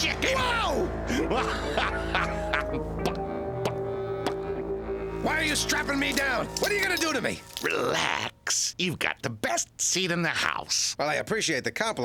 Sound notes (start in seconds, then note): 1.0 laughing; 2.9 clucking